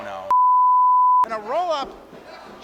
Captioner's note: beep